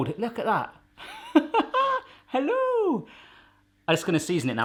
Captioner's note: laughs